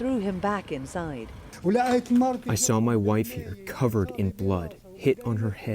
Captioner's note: through translator